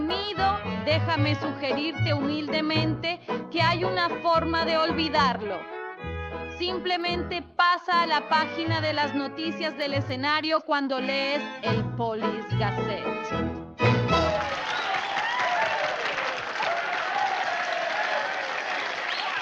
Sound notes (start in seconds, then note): 14.0 men cheering; 17.1 applauses